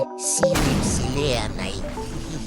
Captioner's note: explosion